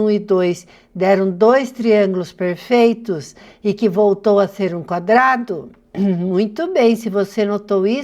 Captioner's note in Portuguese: limpando a garganta